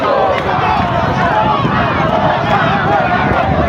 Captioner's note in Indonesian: bersorak